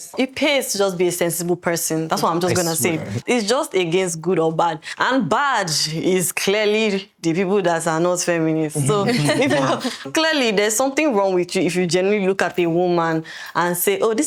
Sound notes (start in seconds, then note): 8.8 laughing